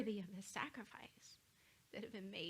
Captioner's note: none